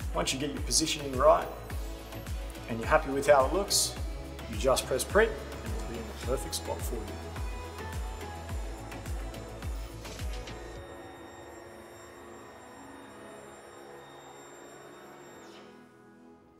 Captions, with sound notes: Once you get your positioning right and you're happy with how it looks, you just press print and it'll be in the perfect spot for you. (soft music) (machine hums)